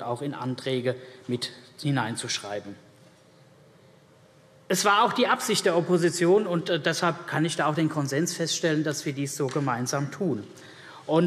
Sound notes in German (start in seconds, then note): none